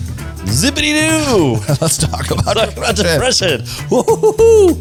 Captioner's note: laughs